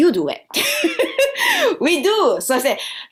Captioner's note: laughter